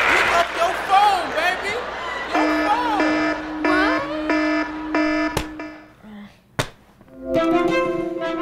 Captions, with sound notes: - Pick up your phone, baby. ...your phone. (buzzer blaring) - What? (banging phone) Ah. (banging phone) (upbeat music)